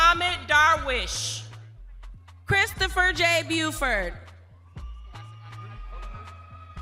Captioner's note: lively music continues; crowd cheering